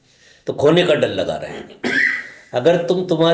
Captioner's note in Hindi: गला साफ़ करने की आवाज़